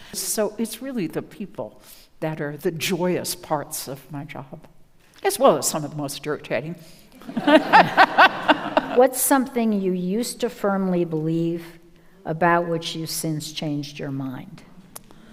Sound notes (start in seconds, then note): 7.2 laughs; 7.2 audience laughs